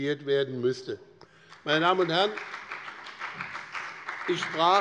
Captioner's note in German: Beifall bei dem BÜNDNIS 90/DIE GRÜNEN und der FDP